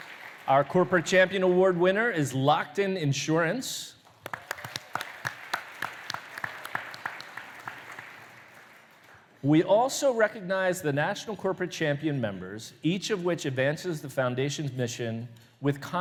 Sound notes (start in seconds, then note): 4.0 applause